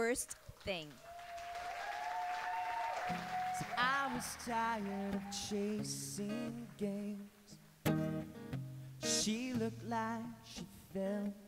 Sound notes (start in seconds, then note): 0.4 applause